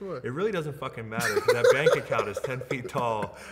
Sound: laughs

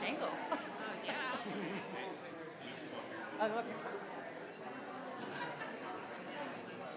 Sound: crowd chattering continues

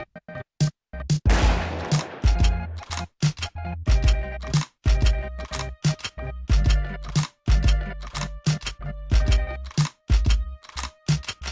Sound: gunshot

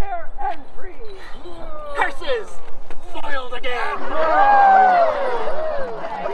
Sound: audience cheers, laughter

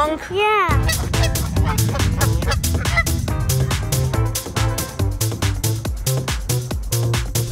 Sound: disco music; goose honks

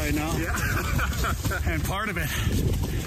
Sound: laughs

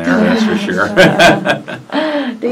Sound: laughs

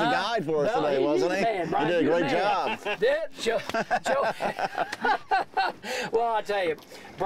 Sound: group laughing

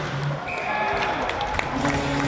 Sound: whistle; clapping; shouting

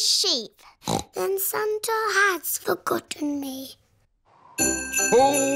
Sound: snorts

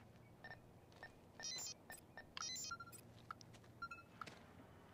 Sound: detector beeping

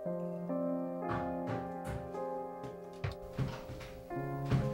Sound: knocking on door

